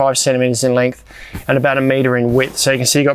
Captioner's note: hand thumping